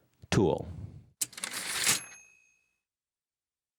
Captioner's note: typewriter ding